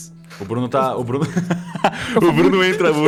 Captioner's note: laughs